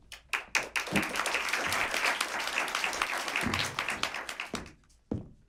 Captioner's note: applause